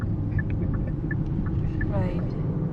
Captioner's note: giggling 😃😃😃😃